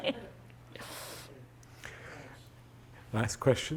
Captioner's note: audience laughing